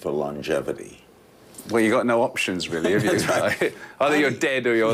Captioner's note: laughter